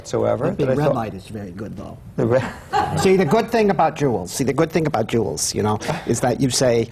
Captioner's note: laughter